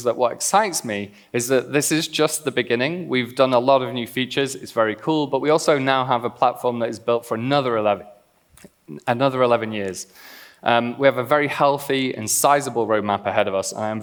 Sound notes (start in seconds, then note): none